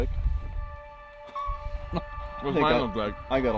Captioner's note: laughing